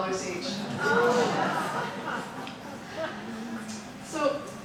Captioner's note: audience laughing